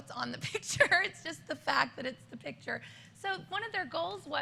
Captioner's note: laughter